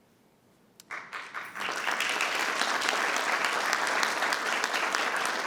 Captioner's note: attendees applauding